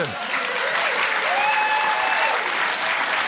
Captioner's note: cheering, applause